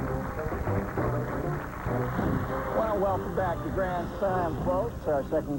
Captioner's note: applause